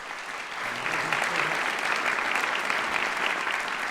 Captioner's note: applause